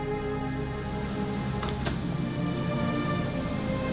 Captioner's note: wind howling